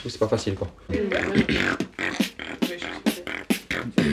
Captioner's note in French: beatbox